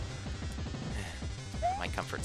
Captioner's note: sigh